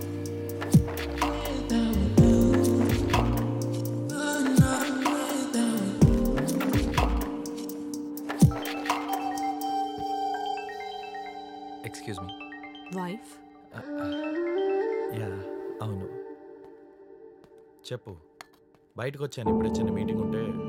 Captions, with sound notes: (Phone rings) Excuse me - Wife? Yeah! I am out for a meeting.